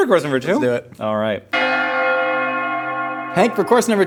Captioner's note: bells Ringing